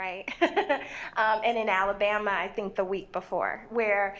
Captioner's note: laughs